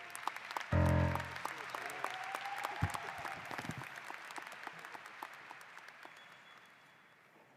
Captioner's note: applause